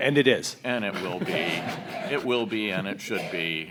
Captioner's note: audience laughs